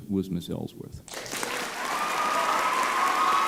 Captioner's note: applause